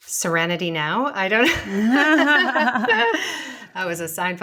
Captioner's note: laughing